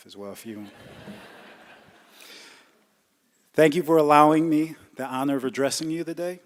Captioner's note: laughter